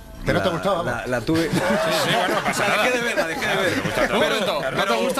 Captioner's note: laughs